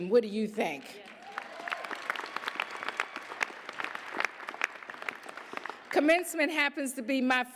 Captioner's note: applause, cheers